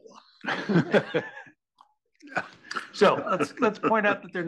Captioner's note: laugh